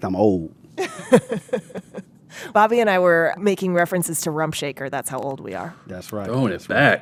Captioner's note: laughter